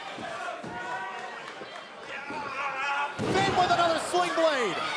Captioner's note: crowd chatter